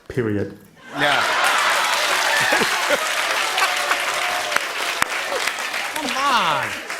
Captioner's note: cheers and applause